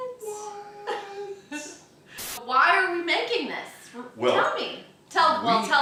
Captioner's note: laughing